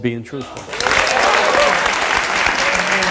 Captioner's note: audience applauds